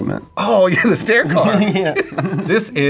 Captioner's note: laughs